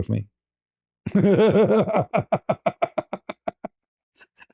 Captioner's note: ketawa